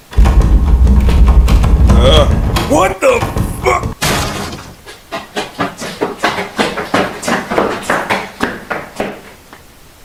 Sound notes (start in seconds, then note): 0.2 door handle shakes, door is hammered; 4.6 running footsteps